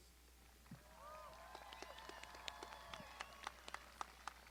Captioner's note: crowd applauding